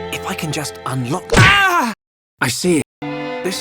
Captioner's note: smack